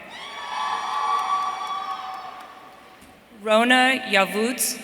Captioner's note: audience cheering